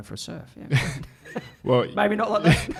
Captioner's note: laughs